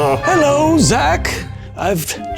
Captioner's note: in puppet voice